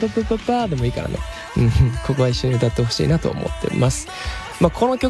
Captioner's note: laughs